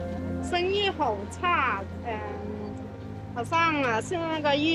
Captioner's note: dramatic music; speaking in foreign language